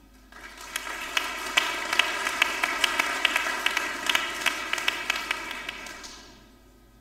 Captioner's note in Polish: oklaski